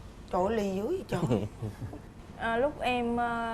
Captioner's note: laughing